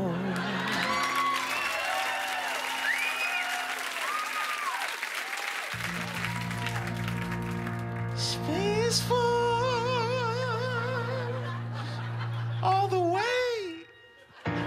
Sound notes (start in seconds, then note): 0.2 cheers and applause